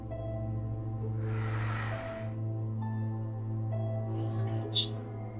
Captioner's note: Hannah breathes deeply